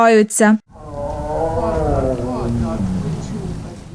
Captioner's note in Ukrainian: муркотить